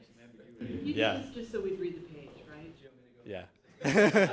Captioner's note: woman speaks off microphone